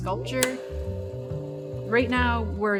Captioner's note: machinery humming